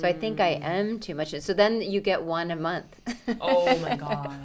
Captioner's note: laughs